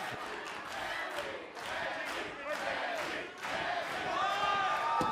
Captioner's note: fans chanting